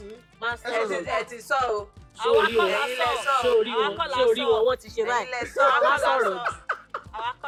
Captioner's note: buzzer Pressed